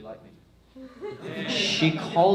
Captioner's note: crowd laughs